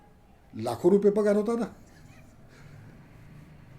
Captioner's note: laughs